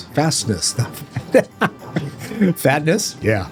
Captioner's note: laughter